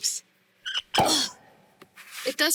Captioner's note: popping sound